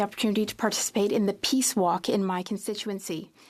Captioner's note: speaking French